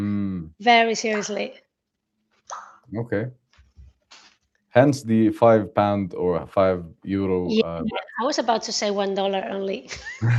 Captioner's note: laughter